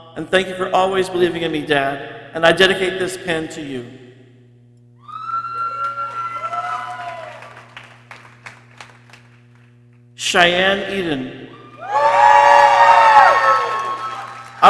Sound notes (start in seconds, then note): 5.0 people cheering; 11.5 people cheering